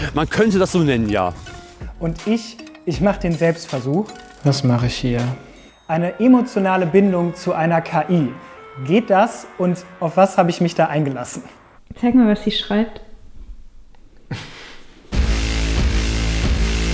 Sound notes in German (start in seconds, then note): 14.2 Leises Lachen; 15.1 Treibende Musik